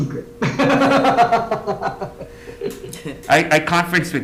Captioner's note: laughs